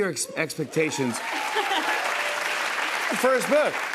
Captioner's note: cheers and applause